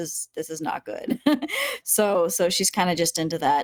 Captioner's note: chuckling